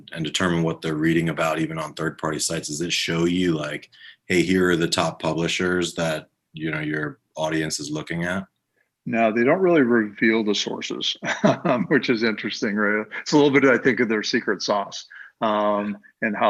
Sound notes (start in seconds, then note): 11.1 laughing